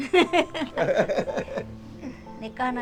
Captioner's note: both laughing